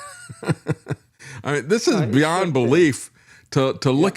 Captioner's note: laughing